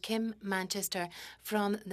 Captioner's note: speaking French